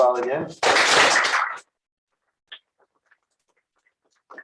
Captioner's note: applause